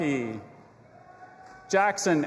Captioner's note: audience applauding and cheering